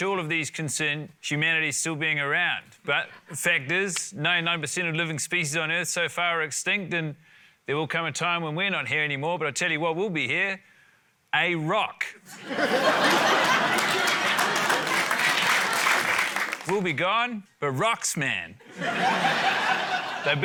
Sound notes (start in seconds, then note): 12.3 laughter, applause; 18.6 laughter